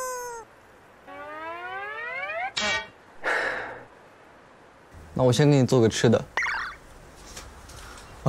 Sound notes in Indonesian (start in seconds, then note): 3.2 Menjaga adik tidak mudah, Kak Chi menghela nafas